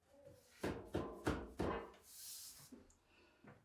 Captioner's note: wood banging